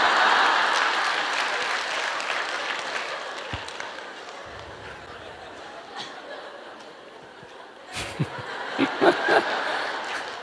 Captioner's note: audience Laughter/Applause